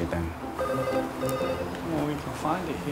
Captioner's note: phone rings